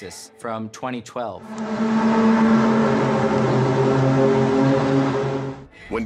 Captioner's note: groaning sound